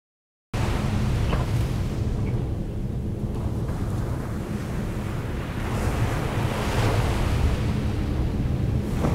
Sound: waves

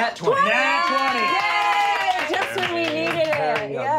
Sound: players cheering; clapping

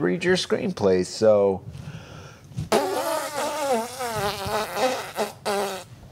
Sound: blows raspberry

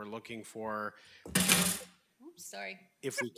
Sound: object thuds

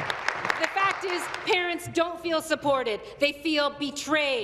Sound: applause

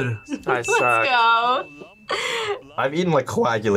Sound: laughs

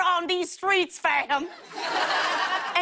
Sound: laughter

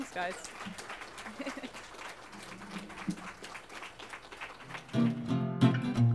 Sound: audience applause; music playing-- no dialogue

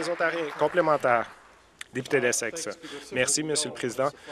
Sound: applause

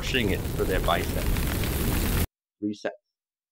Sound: flames crackling

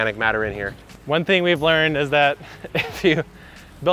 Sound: laughing

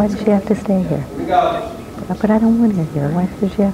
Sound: distant chattering

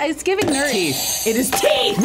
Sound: buzzer rings

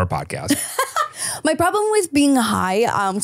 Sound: laughs

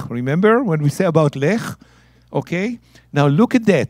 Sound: speaking in Hebrew; speaking in Hebrew

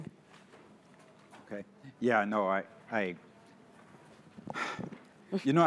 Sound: sighs

